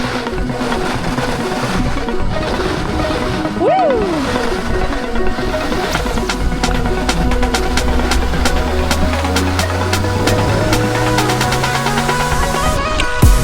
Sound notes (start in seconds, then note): 1.3 bright electronic music continues; 3.6 whoops; 8.8 bright electronic music continues